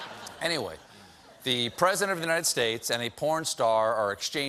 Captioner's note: laughter